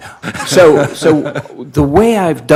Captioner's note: laughing